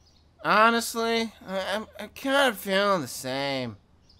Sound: none

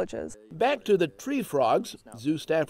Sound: voiceover

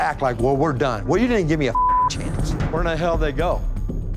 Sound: beep

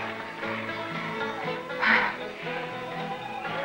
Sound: sigh

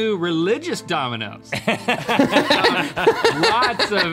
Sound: all laughing

